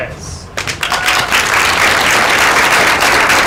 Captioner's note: applause